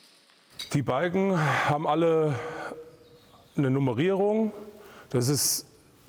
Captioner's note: sighing